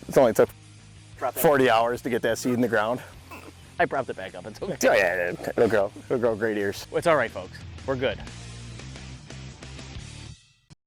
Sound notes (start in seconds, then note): 4.6 laughs; 8.3 rock music